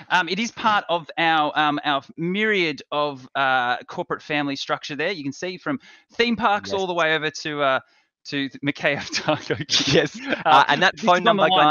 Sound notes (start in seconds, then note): 8.9 both chuckle